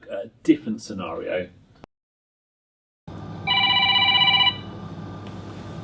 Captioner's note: phone rings